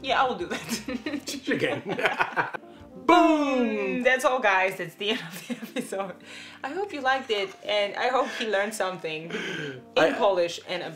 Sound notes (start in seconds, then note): 0.6 they laugh